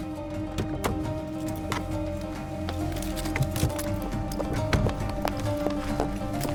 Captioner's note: dramatic music continues; gravel crunching; footsteps tapping; door creaking; dramatic music continues